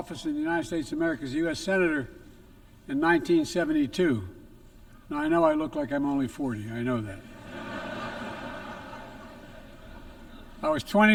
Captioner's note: laughter